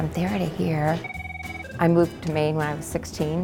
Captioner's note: phone rings